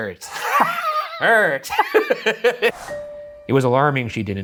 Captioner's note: both laughing